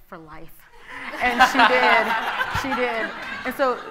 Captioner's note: audience laughing